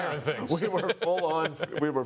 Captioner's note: laughter